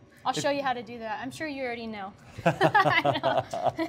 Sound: laughter

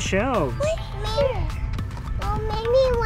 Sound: bell ringing

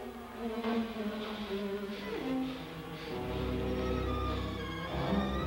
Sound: heavy breathing; dramatic music

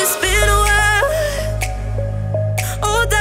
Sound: upbeat music; fingers snapping

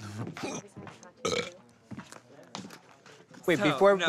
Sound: burps

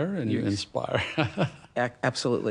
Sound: laughs

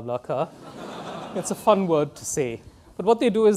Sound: students laughing

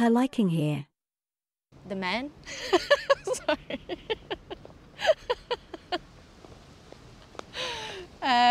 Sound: laughs

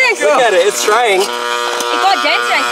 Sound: buzzing

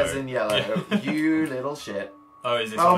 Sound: chuckles

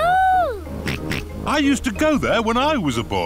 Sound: snorts

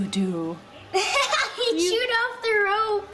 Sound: laughs

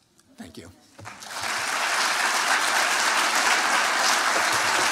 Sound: applause

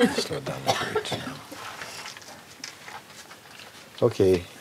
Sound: laughter

